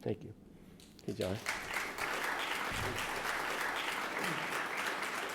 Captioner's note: audience clapping